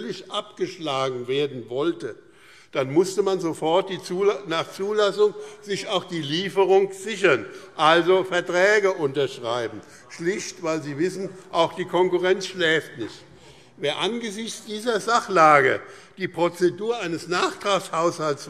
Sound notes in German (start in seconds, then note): none